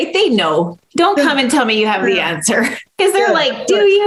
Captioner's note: laughs